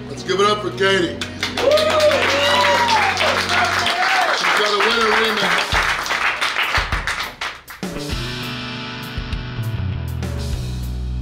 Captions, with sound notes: - Let's give it up for Katie! (cheering and clapping) - She's got a winner in there. (rock music)